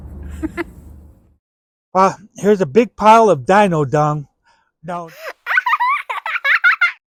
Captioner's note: digitized giggling